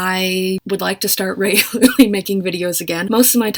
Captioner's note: laughs